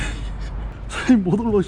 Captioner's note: laughting